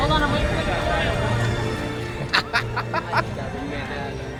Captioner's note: laughing